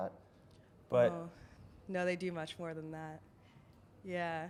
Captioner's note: voiceover